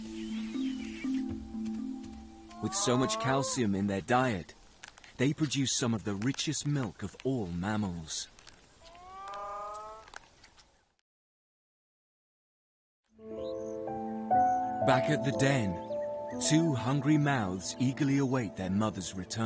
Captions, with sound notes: With so much calcium in their diet, they produce some of the richest milk of all mammals. (hyena whines) Back at the den, two hungry mouths eagerly await their mother's return.